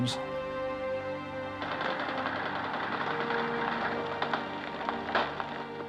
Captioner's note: machine gun firing